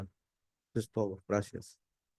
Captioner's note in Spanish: hablando en español